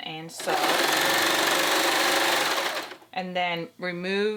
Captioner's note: sewing